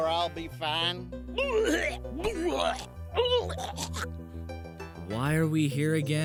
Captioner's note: blows chunks